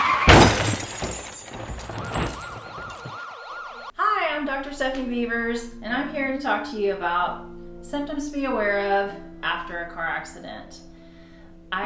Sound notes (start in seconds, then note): 0.0 car crashes; 1.8 sirens blare